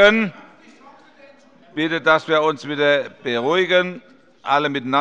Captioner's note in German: Zurufe von der SPD und der LINKEN